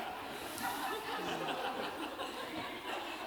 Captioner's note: laughter